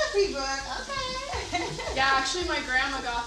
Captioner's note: laughing